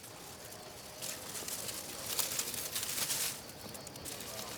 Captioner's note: leaves crunching